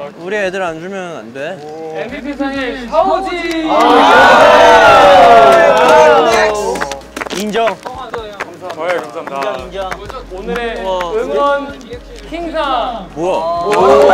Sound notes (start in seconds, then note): 5.1 applause